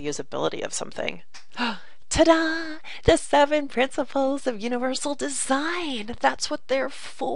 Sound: gasp

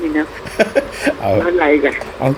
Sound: laughing

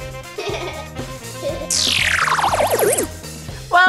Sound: laughing

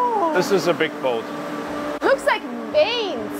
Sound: machinery whirring

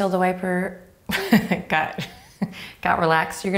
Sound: laughs

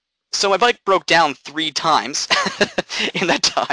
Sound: laughing

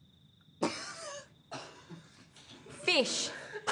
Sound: laughter

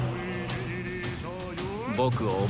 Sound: man speaking japanese

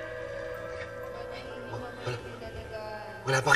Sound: women muttering

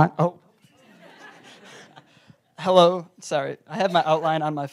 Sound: laugh

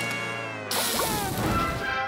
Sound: sizzling

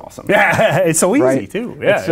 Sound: laughs

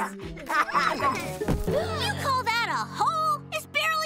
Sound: laughing; gasping

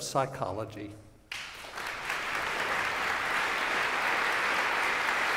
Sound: applause

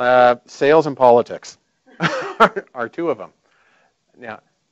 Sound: laughing

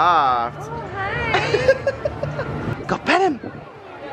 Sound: giggle

